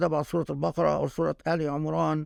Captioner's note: speaking Arabic